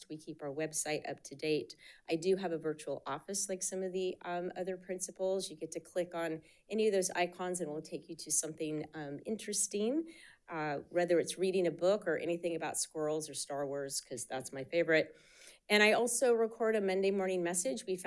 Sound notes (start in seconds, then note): none